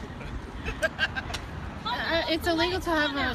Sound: woman laughing

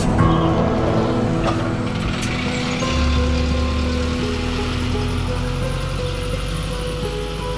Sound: sound of guided bus passing

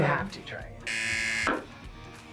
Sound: buzzer

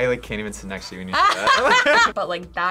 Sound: both laugh

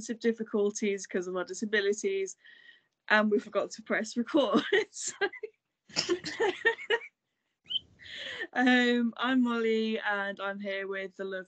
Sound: laughing; laughs

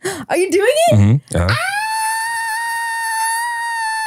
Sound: squeals

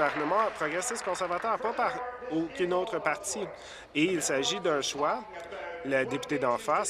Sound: applause

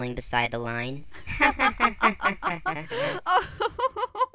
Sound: laughter

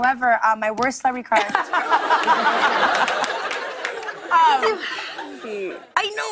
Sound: laughter

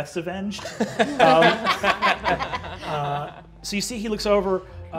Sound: all laughing

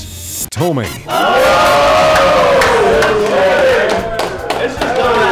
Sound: cheering and clapping

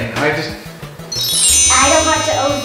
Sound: sparkle sound effect

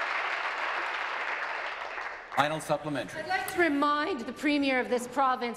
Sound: applause

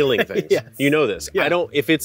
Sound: laughs

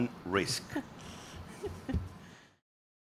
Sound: all chuckling

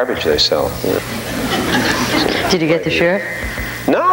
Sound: audience laughing

